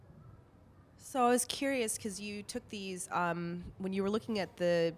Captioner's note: voiceover